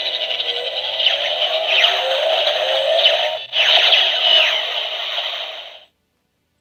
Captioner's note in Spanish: efectos de sonido de juguete